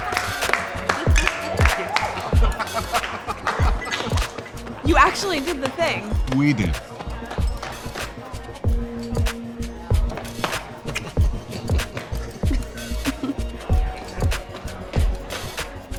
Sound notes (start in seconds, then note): 3.4 cheering continues; 11.4 both chuckling